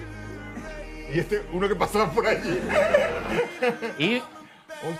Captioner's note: laughs